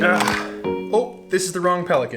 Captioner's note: casual music plays; sighs